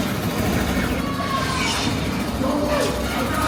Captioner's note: engine roaring; guns firing